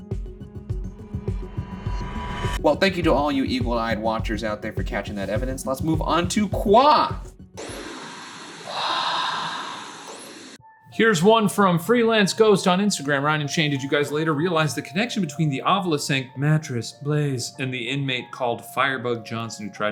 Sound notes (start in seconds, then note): 0.8 tense rhythmic music swelling; 7.8 static crackling; 9.2 whispering Voice